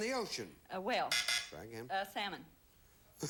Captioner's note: buzzer sounds